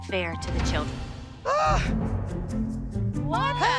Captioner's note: Abby Lee groans